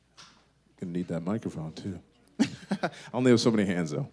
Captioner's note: laughter